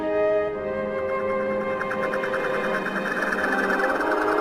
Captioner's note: teleporter Warbles